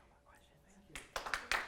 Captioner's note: applause